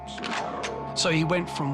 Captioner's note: gun cocks